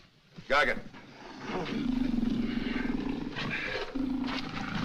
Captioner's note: breathing Heavily